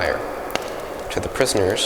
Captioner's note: fire crackles